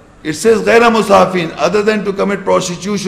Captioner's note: Arabic